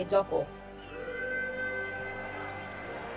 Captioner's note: starting whistle